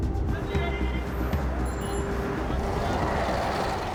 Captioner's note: bell rings